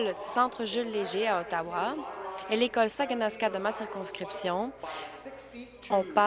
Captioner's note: speaking in french